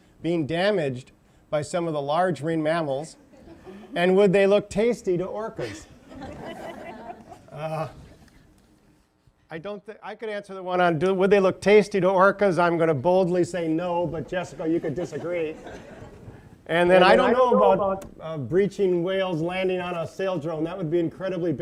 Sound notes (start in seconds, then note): 5.6 laughter; 16.4 laughter